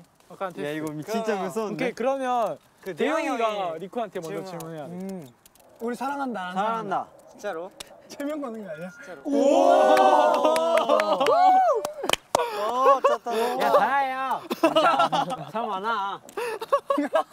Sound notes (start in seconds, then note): 14.4 cracking up